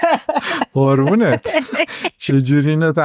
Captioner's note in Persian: خنده